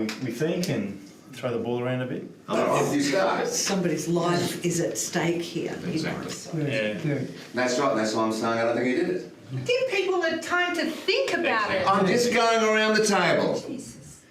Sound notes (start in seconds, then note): 5.7 other jurors murmur agreement